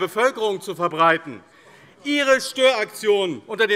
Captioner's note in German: Zurufe DIE LINKE